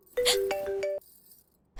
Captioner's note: gasps